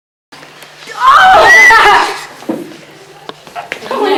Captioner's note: high pitched squeal